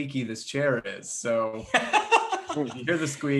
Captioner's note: laughs